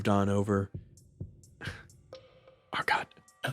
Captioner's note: sigh